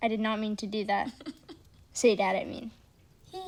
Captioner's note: giggling